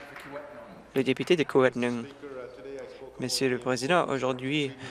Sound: applause

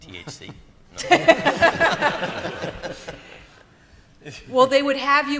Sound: laughter

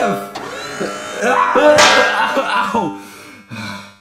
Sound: Mario screaming and groaning; Mario panting

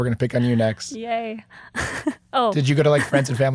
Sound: laughing

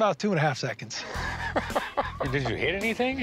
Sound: laughs

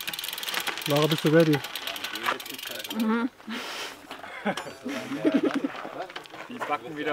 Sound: chewing, laughing

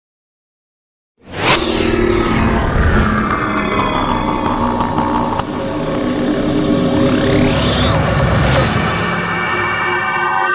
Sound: sound of science fiction

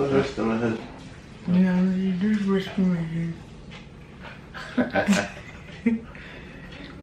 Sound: laughs

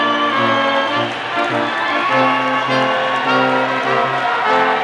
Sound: audience applauding

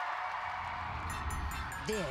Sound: cheering continues

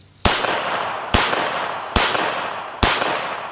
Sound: gunshots

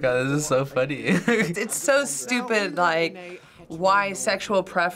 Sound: chuckles

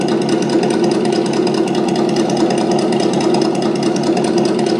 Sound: engine throttling

